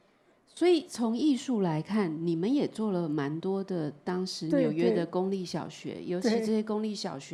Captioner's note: Mandarin